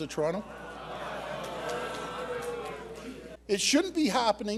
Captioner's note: audience Booing